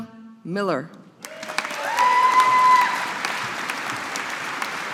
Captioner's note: audience applauding